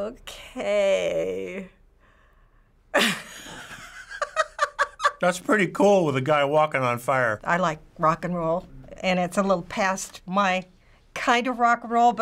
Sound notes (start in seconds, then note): 3.0 laughing